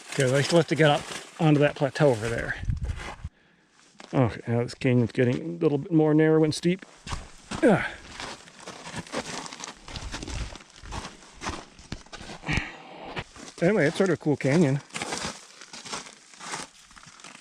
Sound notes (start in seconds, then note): 7.6 grunts; 8.6 footsteps thumping